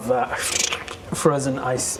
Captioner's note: frrzzrch